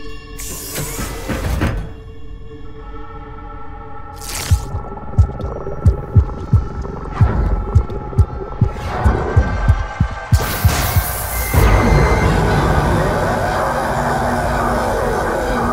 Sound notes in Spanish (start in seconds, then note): 4.2 Ruidos pegajosos; 6.5 Ruidos pegajosos INTENSIFICADOS